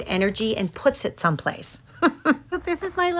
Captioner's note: laughs